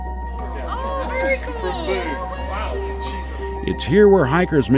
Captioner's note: hikers chatter indistinctly